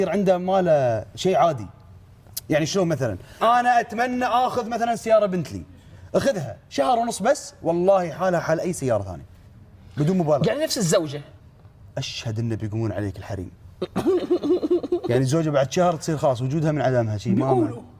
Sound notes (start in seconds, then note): 13.8 chuckles